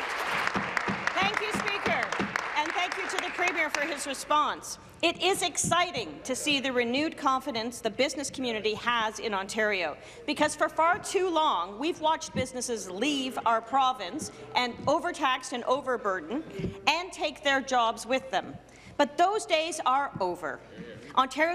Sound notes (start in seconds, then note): 0.0 applause